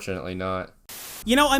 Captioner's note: static